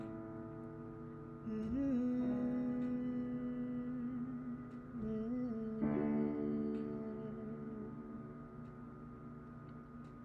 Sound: humming

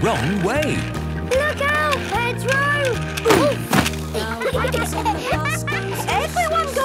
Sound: laughter

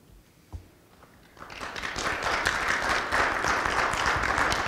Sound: applause

